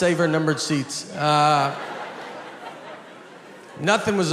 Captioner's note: audience laughs